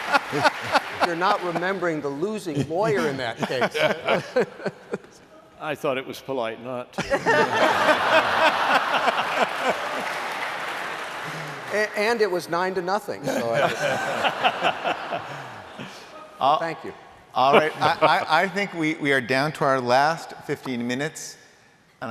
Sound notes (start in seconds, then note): 0.0 laughter; 2.5 laughter; 7.0 laughter; 13.2 laughter